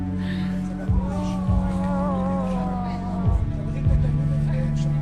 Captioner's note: speaking foreign language; sighing; dramatic orchestral music